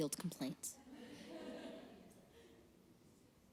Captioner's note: laughter